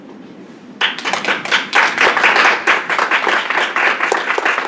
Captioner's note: applause